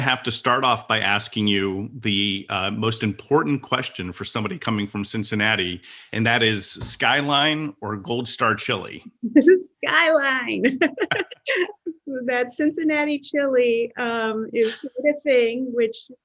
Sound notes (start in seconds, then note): 10.5 chuckles; 10.5 laughs